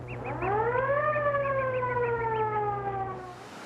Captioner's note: siren wails; mouse squeaking